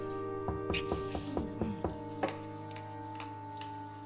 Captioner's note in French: On frappe à la porte